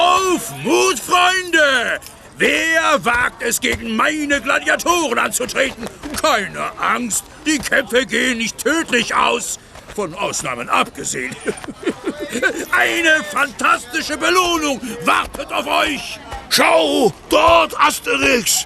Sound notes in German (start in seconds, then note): 11.2 gelächter